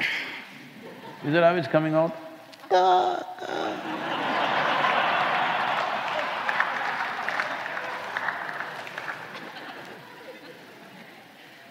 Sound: laughter

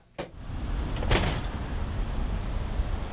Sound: door closes

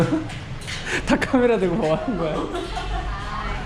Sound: laughs

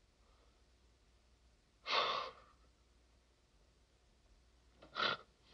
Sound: laughing

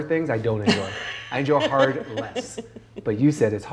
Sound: chuckling

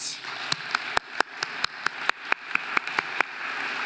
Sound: audience applauding

